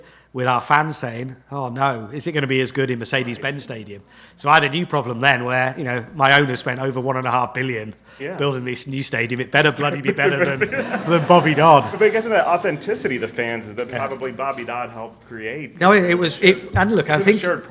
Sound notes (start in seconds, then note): 11.4 audience laughs